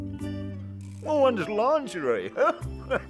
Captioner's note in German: lacht